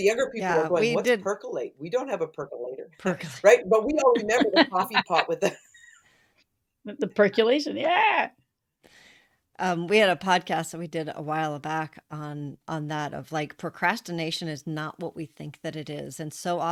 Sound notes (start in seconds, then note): 4.0 laughter